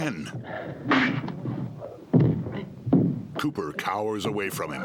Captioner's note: smack